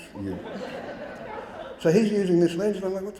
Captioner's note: audience laughing